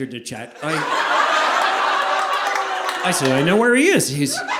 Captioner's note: audience laughing